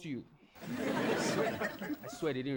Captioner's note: audience laughing